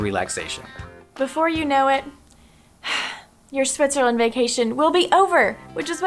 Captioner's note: sigh